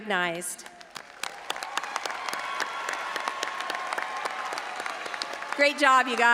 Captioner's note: all applauding and audience cheering